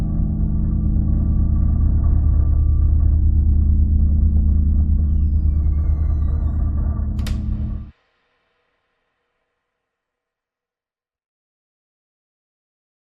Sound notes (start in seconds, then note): 5.5 door creaking; 5.5 door thudding